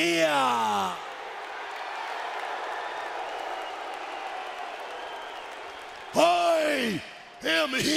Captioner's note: crowd cheering